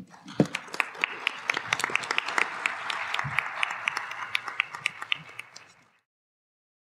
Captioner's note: applause